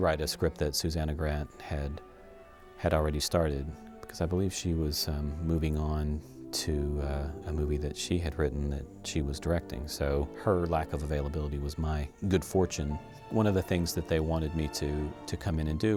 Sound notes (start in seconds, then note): none